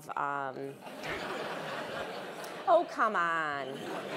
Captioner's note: laugh